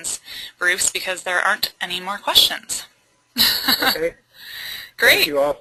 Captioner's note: laughing